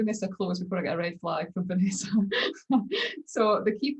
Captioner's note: laughs